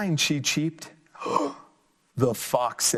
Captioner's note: gasps